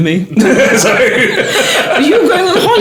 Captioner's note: laughing